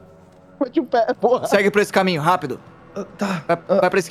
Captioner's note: laughing